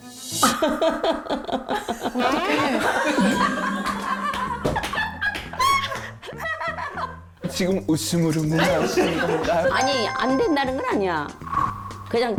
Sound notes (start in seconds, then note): 0.4 laugh full of deep meaning; 9.8 hopeful sound effect